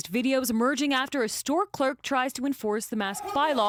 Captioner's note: shouting